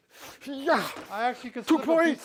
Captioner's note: exclaims